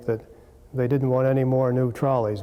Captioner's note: none